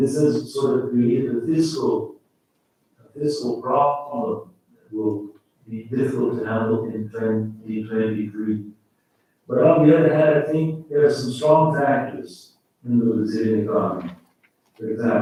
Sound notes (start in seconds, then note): 3.5 faintly speaking